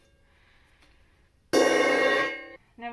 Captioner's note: crash!